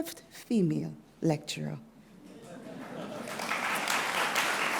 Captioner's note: applause